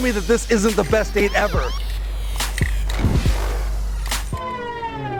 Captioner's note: siren whooping